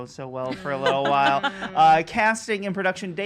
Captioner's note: laughs